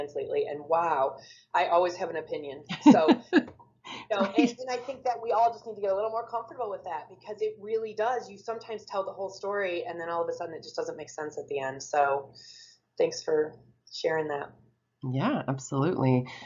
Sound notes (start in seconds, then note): 3.9 laughs